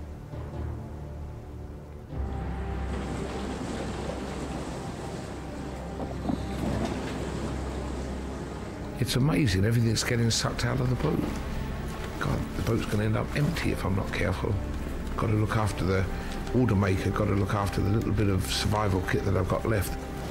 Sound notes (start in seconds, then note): 2.3 water gushing; 6.8 water sploshing